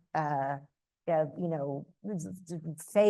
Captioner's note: speaks in foreign language